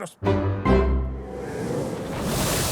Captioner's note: triumphant music; wind rushes